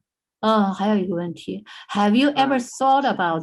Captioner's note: speaking in foreign language